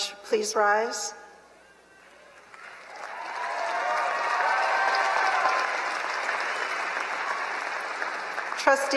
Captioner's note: applause